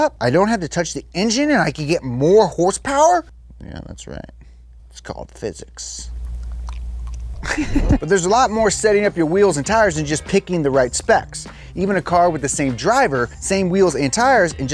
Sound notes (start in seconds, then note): 7.4 laughs